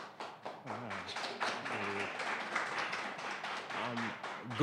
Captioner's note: applause